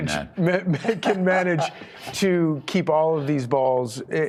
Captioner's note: laughter